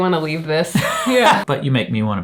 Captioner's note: laughs